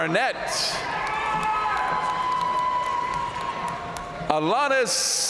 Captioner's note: audience cheering and applauding